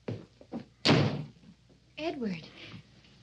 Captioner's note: door slams